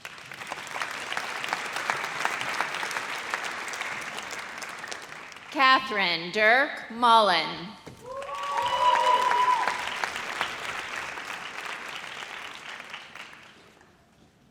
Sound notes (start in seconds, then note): 0.0 audience applauds; 8.0 audience cheers